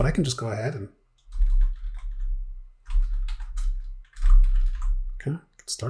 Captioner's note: typing